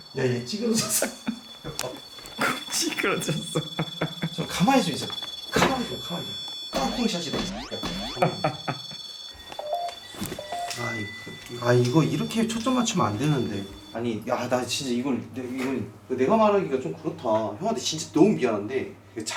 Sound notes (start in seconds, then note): 13.9 stutter